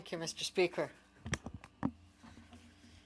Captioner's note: speaking French